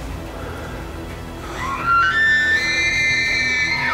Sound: elk bugling

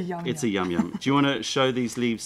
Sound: laughter

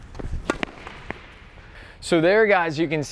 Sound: tennis ball slams

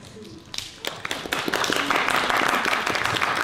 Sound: applause

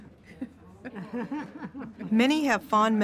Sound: giggling

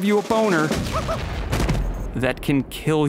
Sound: loud explosion

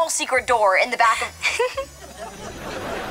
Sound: giggling

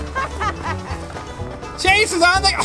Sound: laughing

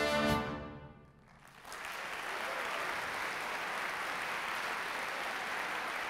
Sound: applause

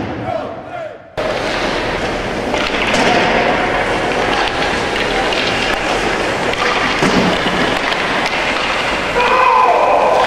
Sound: sounds of ice skates and hockey sticks

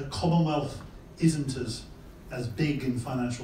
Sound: none

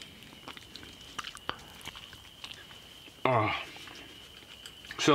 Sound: wet chomping

